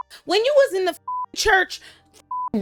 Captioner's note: beep